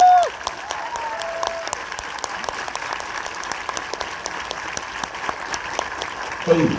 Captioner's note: applause